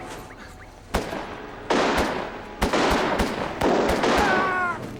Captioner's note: guns bang; yelling